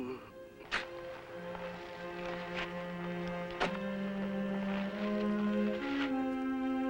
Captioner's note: Slug groaning; dramatic music; soil crunching